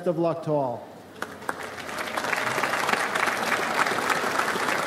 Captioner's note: audience applauds